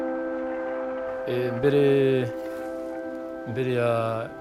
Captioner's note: man Speaking In Kinyarwanda